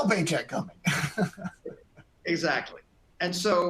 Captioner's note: laughter